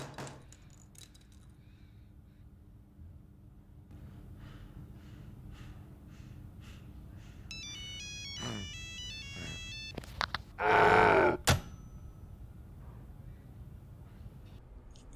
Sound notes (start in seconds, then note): 4.0 heavy breathing; 8.4 grunt